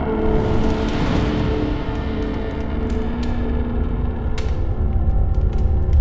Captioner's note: burning fire